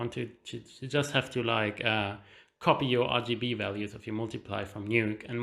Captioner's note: none